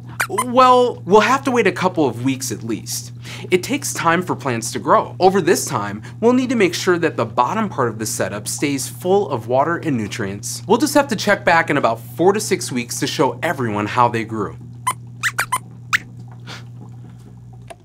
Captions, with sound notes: Well, we’ll have to wait a couple of weeks at least. It takes time for plants to grow. Over this time we’ll need to make sure that the bottom part of the setup stays full of water and nutrients. We’ll just have to check back in about four to six weeks, to show everyone how they grew! [Squeaks squeaks]